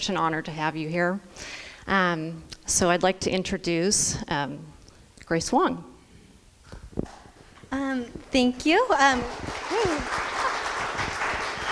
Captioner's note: crowd applause